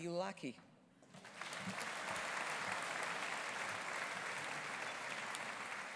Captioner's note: audience applauding